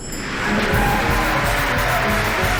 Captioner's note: crowd clapping; orchestral music